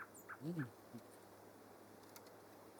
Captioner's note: none